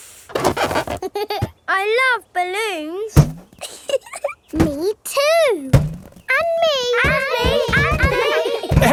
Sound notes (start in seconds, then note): 3.6 chuckles